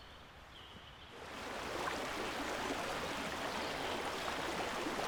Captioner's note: river flowing